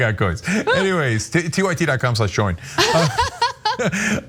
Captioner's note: laugh; laugh